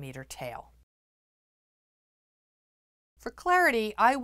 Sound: no Sound Present

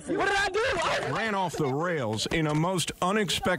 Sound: yelling

